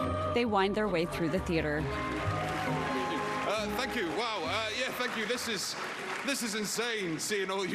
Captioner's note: applause